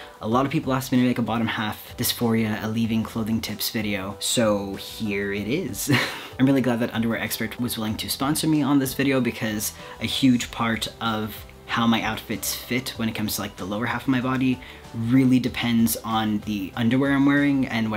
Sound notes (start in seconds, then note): 5.8 chuckles